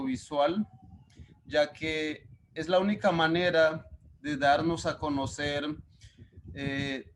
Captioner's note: speaking Spanish